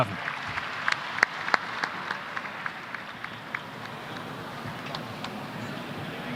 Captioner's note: applause